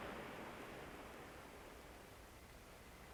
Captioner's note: waves quieter